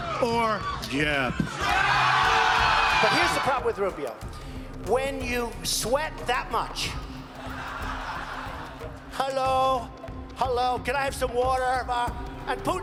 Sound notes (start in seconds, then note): 7.0 crowd; 10.9 audience laughing